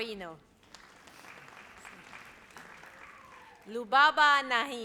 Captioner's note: audience applauds